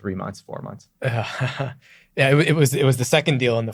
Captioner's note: laughs